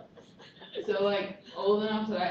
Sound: laughter

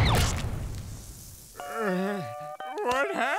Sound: groaning

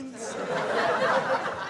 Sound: audience laughing

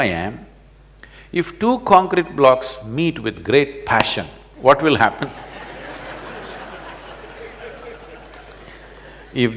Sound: laughter

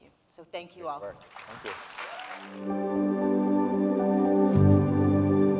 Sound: audience applauding; gentle music

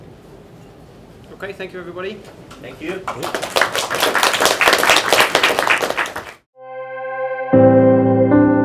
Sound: APPLAuSE

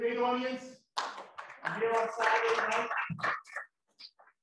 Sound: students clap

